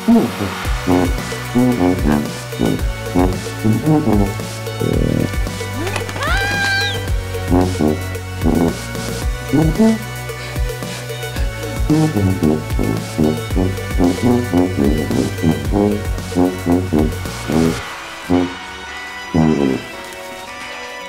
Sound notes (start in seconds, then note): 5.7 yells; 9.7 heavy breathing; 20.9 heavy breathing